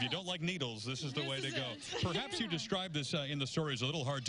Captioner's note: laughter